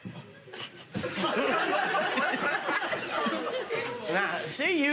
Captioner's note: laughter